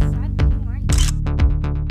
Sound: photo click

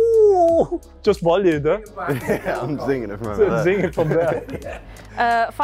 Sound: laughter

